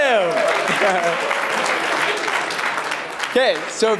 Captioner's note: applause